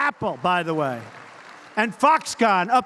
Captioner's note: applause